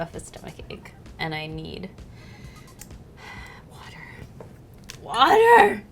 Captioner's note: sighs